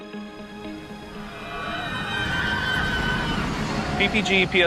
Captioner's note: riders screaming